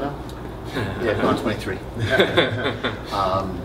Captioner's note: laughter